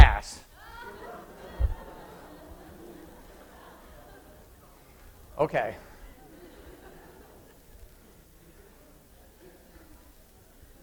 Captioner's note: laughter